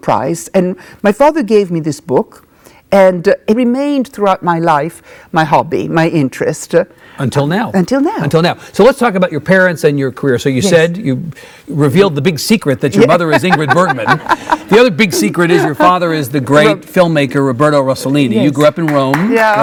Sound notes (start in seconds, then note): 12.9 Isabella laughing; 18.6 audience clapping